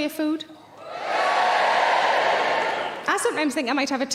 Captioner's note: audience cheering